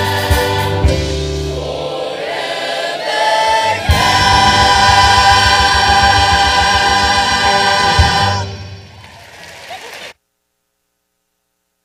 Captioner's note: applause